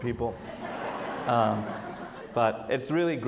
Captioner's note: audience laughs